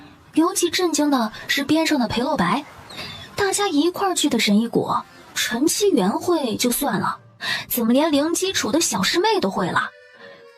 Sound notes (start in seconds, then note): none